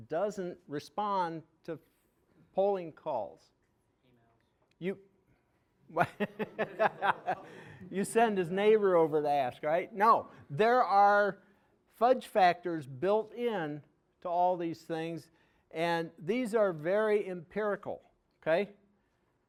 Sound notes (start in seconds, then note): 6.0 audience laughing